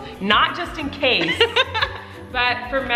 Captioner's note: laughing